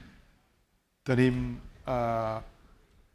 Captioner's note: speaking spanish